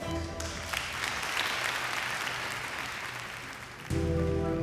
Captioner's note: crowd clapping